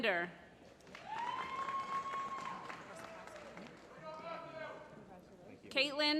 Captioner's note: applause